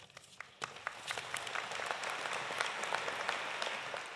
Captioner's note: audience applauding